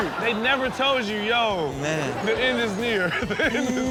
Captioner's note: laughs